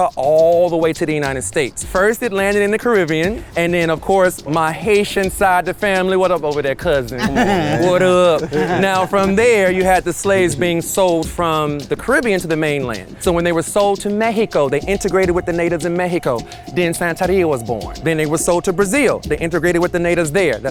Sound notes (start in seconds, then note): 7.2 giggles; 7.2 guys chuckle